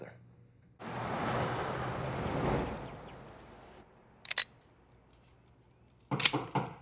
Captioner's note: cars driving; birds chirping; gun cocks